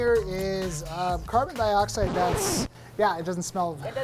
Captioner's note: record scratch